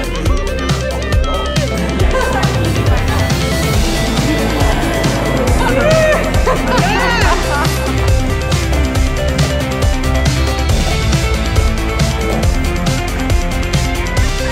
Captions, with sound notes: - Grandma's holding on for dear life! (laughing) (electronic music)